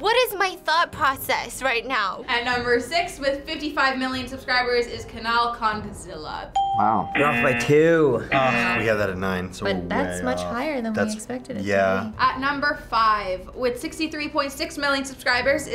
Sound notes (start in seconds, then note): 6.6 bell rings; 7.1 buzzer rings